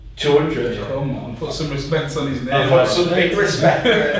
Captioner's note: laughing